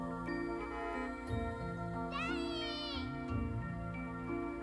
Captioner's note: car honks